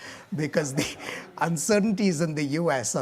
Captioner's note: audience laughing